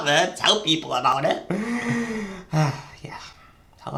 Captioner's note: inhale